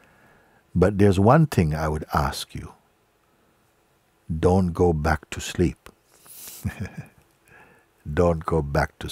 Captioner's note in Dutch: lacht